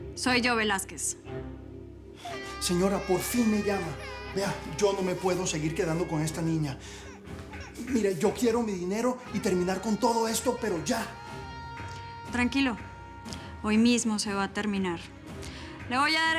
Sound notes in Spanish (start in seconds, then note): 4.4 Llanto de la niña